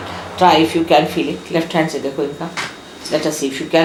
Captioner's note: indian words